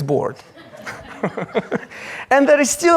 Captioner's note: audience laughs